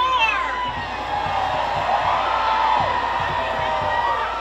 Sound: crowd cheers

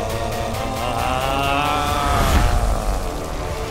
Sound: growling

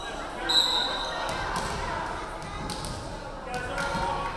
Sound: referee whistling

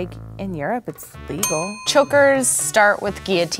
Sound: bell dings

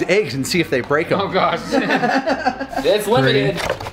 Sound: group laughs

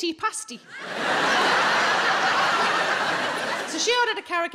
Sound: audience laughing

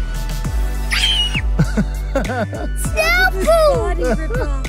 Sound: screams

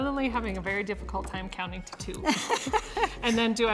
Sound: laughing

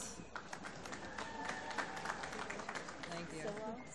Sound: applause

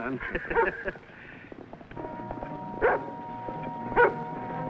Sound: chuckling; dog barks

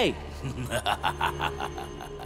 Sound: laughing

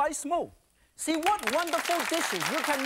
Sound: audience clapping

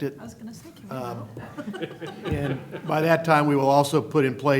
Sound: laughter

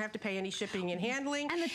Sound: laughter

